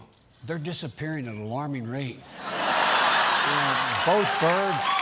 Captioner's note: applause; laughter